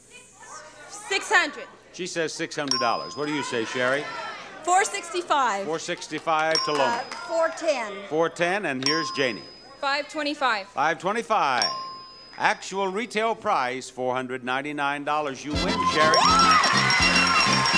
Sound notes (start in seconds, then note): 2.6 bell dinging; 6.4 bell dinging; 8.8 bell dinging; 15.5 audience cheering; 15.8 exclaiming